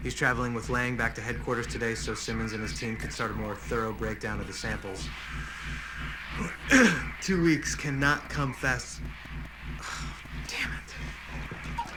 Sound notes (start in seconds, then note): 5.5 inhales deeply; 6.7 clears throat; 9.4 sighs